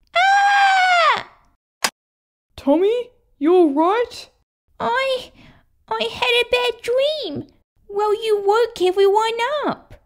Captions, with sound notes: Arrrgh! (Click!) Tommy, you alright? I... I had a bad dream Well you woke everyone up